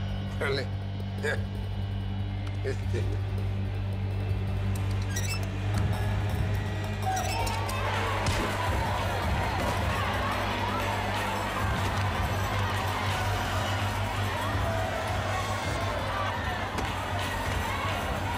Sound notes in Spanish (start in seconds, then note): 8.2 golpes